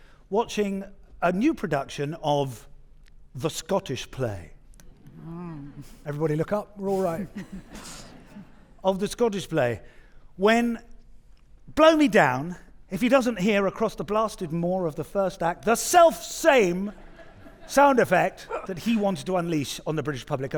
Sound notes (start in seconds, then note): 6.9 audience chuckling